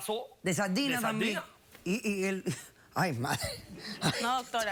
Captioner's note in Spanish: risas